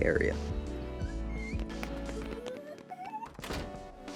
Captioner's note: running Footsteps; door Closes